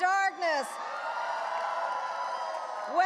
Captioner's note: audience applauding and cheering